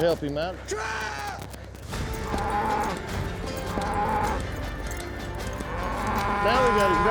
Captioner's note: bull bellows